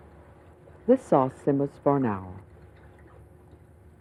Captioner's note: voiceover